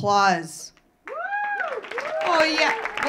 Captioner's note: audience clapping; audience cheering